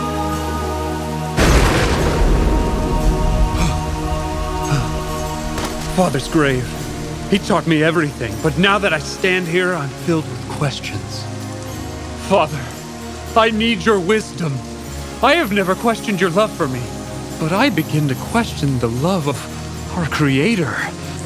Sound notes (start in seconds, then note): 1.3 lightning crackling; 3.4 breathing heavily